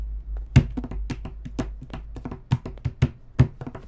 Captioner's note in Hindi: टैपिंग